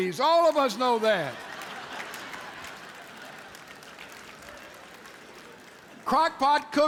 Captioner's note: audience laughs